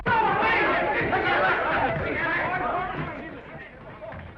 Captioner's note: gavel bangs; all chattering